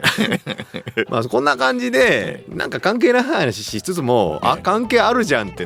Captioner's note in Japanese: 笑い